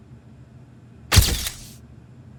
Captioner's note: camera Clicking